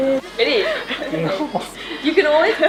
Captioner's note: laughs